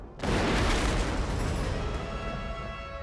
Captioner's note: gunshots; rifle shot